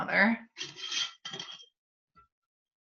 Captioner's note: sounds of opening a jar